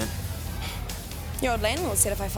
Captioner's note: Jodie sighs